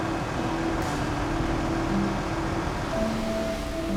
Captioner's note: traffic noise; trucks idling; construction noise